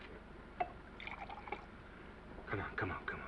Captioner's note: scotch sloshing